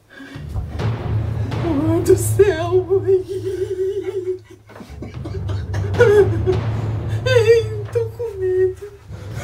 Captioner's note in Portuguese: gemidos de medo